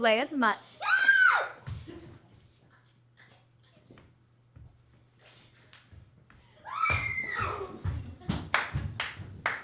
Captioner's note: high-pitched yelling